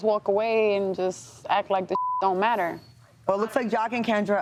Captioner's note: beep